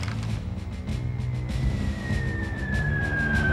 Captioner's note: cannonball approaching